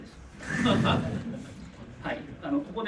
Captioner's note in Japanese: 会場 笑い